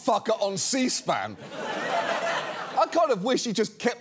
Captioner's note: audience laughs